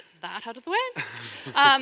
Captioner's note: chuckle